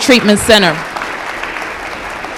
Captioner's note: applause